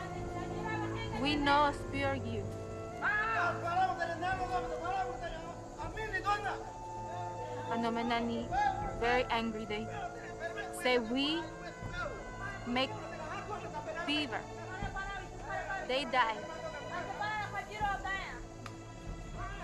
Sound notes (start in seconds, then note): 2.9 shouting continues